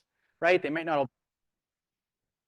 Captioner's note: audio out